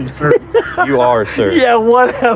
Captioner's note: laughs